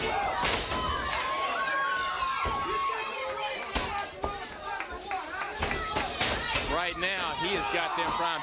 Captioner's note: crowd chatter